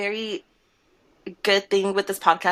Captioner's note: none